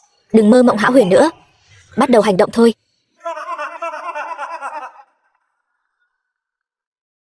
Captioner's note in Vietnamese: Tiếng cười